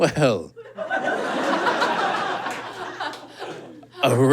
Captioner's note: audience laughs